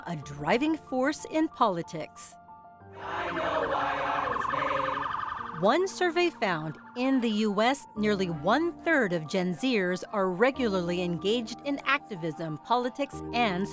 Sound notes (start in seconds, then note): 2.9 group chanting